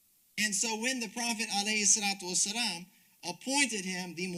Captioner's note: speaks Arabic